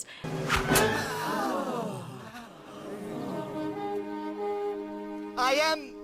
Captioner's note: slow music; gasping